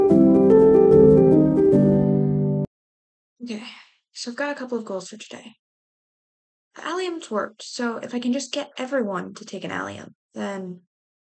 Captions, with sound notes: (exhale) okay. so i've got a couple of goals for today. the alliums worked, so if i can just get everyone to take an allium, then...